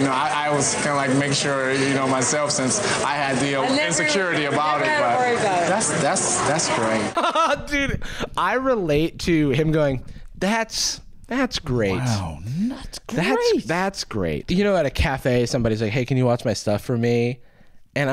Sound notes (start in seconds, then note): 7.1 laughing